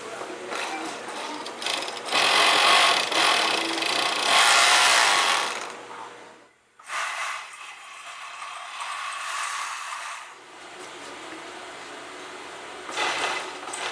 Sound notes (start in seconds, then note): 1.4 sewing machine whirring